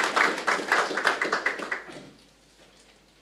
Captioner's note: applause